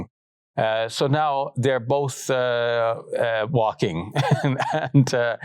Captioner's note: laughs